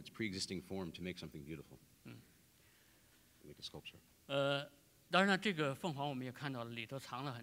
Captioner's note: speaking in Chinese